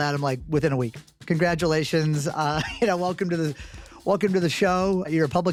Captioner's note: laughing